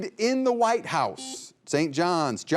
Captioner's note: buzzer beeping